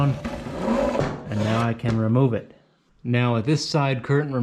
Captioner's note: curtain rubbing